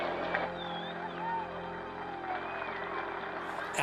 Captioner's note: cheering